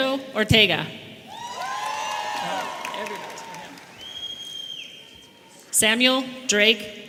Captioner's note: audience applauding and cheering